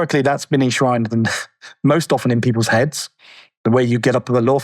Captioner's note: chuckles